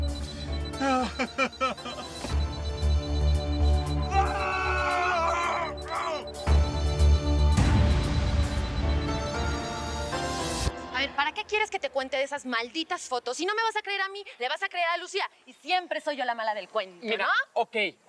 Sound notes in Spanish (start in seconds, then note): 4.0 Sollozos; 7.3 Gritos